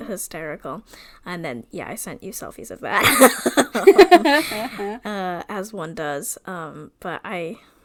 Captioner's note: laughs